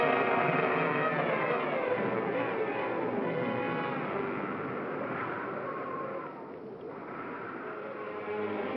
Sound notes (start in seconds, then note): 3.4 wind howling; 7.6 ominous music